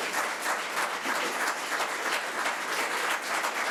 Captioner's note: audience applause